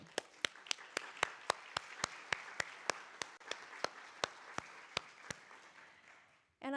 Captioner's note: applause